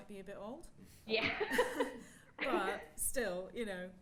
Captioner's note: laughing